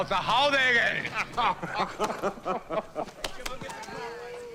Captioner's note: both laughing